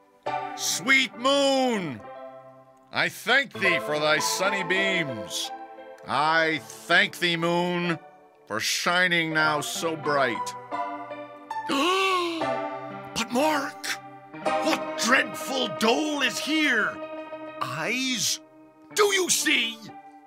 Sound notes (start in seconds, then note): 11.8 Pyramus gasps